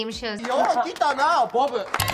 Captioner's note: speaking Japanese